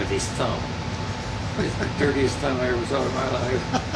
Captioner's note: laughing